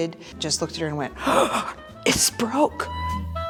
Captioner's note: gasping